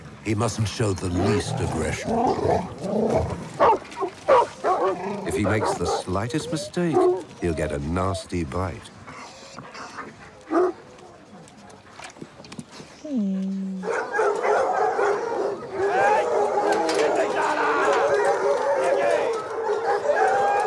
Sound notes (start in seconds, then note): 13.8 barking; 14.4 shouting